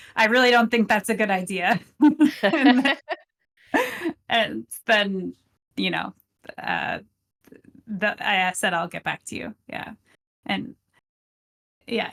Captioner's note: both laughing